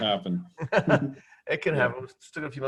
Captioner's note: laughs